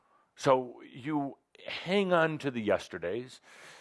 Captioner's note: none